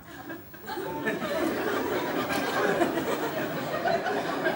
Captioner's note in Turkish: Kahkaha sesleri